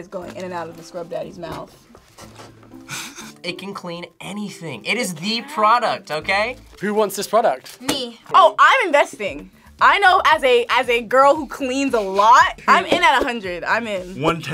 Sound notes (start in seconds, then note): 2.2 laughs